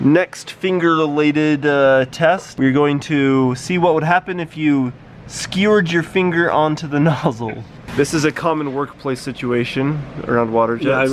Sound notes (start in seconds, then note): 7.3 chuckles